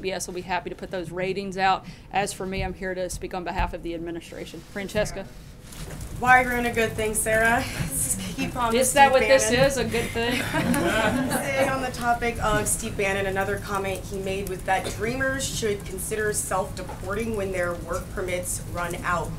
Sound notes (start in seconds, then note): 9.9 laughter